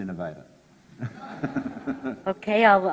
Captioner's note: audience laughs